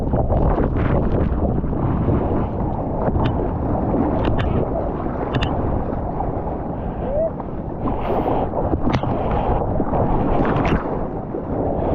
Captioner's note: wind